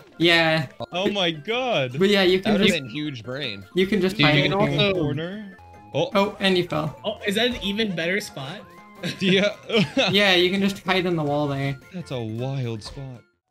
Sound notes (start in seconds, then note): 9.6 laughs